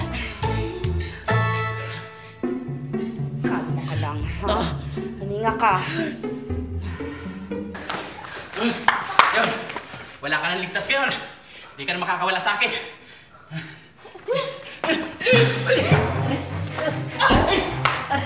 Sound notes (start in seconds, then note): 5.8 breathes deeply; 13.4 panting; 14.7 grunting